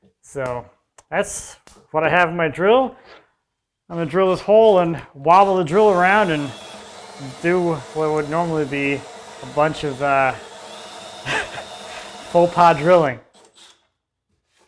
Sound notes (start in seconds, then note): 11.2 laughing